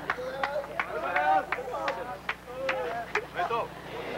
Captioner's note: indistinct chattering